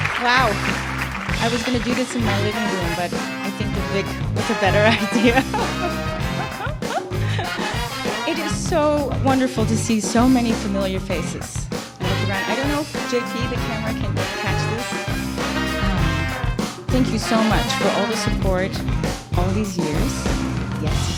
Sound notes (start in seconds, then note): 4.4 laugh